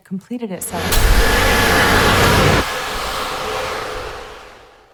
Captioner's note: insects buzzing; dramatic music